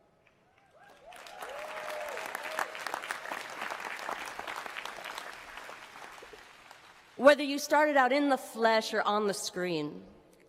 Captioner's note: cheering and applause